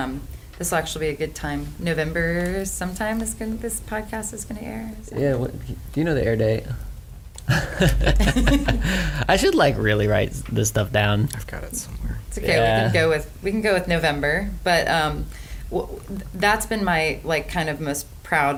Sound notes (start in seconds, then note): 7.4 laughs